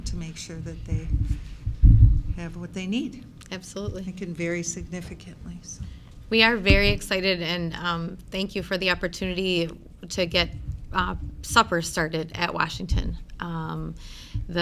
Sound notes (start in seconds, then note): none